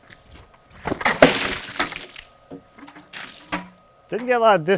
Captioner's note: water splats